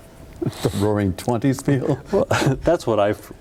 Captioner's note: laughing